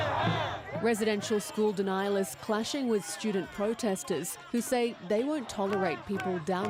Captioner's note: chanting